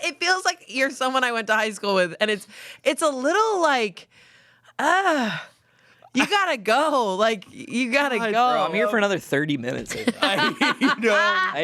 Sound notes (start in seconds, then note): 4.8 groans; 9.9 laughs